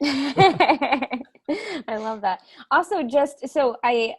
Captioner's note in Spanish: Risas